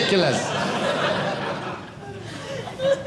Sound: audience laughing

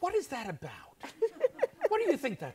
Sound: laughs

